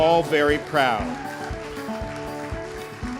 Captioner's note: applause